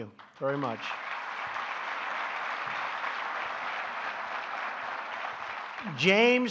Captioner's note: applause